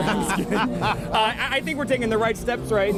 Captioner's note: laughter